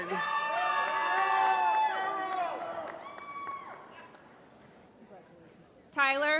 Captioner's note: applause